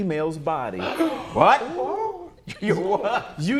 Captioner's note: all exclaim